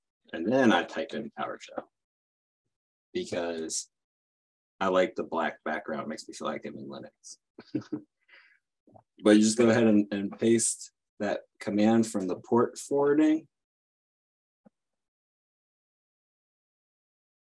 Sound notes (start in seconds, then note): 7.6 chuckles